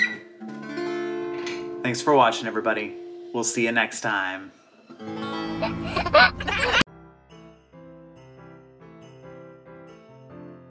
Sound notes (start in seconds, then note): 5.2 giggles; 7.1 light music